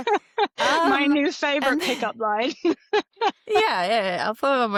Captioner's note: laughs